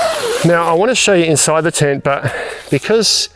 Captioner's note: sighing